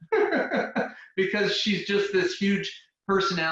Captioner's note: laughing